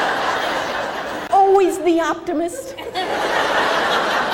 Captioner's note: crowd laughs